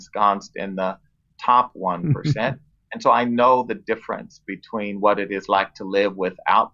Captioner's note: laughs